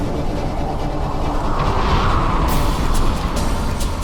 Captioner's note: wind blowing